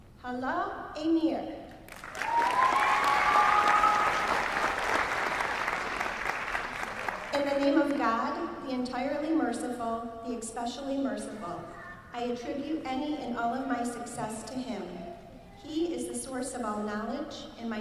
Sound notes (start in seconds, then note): 1.8 applause